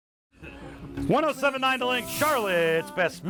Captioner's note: radio Announcer